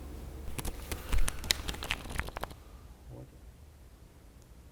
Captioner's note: cards being shuffled